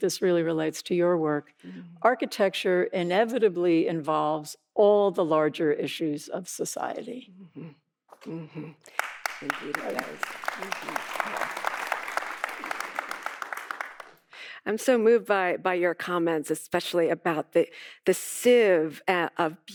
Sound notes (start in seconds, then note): 8.9 audience applauding